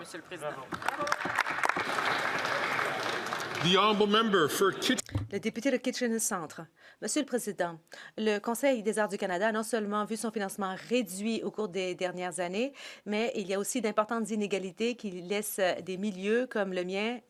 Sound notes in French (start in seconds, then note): 7.8 voix de l'interprète